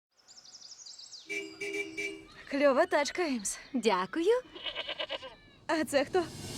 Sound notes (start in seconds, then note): 1.2 car honking; 4.4 goat bleats